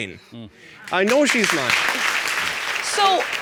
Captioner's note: audience applauding